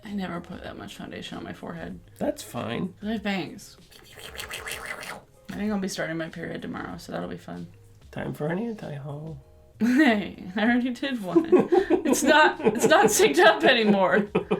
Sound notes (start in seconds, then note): 3.9 mimics sound effects; 11.3 laughter